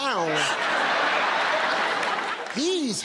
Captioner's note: laughter